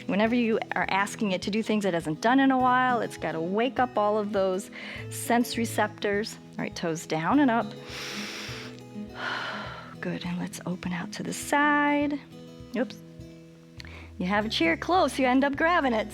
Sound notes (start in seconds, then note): 7.7 inhales and exhales